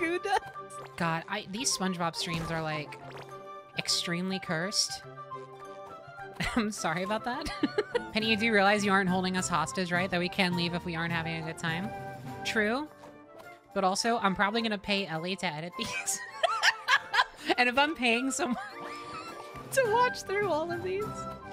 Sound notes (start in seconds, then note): 7.4 laughter; 15.8 laughter; 15.8 laughing